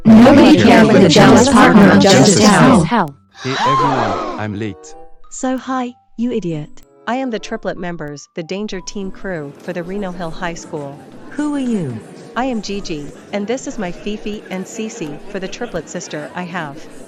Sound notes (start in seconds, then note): 3.2 students Gasping